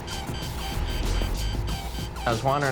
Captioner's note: alarms blaring